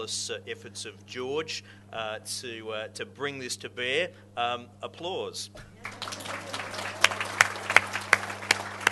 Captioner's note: audience laughs and applauds